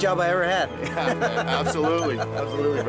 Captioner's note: laughs